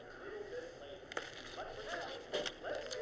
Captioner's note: movie continues in background